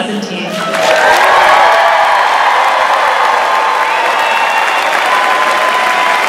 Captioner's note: audience cheering and applauding